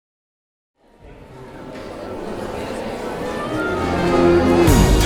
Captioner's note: audience talking; rhythmic music